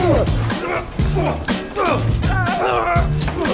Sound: actors grunting; funk music

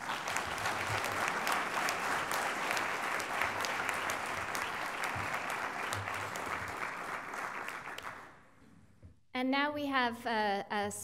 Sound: applause

